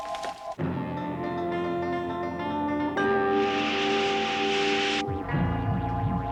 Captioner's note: geyser hissing; intense dramatic music; pylon warbling